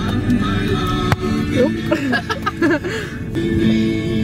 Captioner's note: laughing